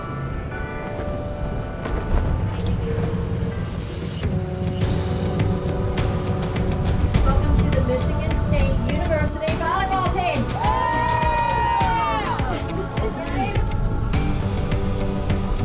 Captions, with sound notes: (bell ringing) (upbeat music) - Welcome to the Michigan State University volleyball team. (team cheers) (upbeat music)